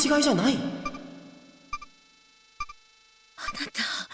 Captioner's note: silence